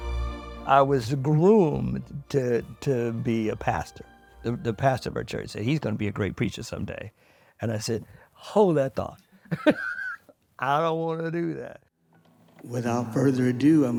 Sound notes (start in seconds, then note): 9.4 laughs